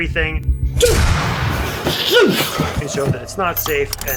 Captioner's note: horror music; bang!